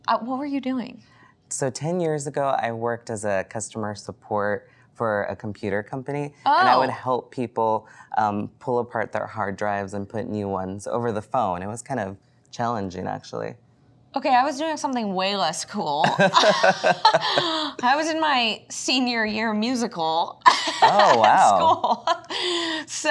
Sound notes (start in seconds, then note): 16.0 both laughing; 20.5 laughs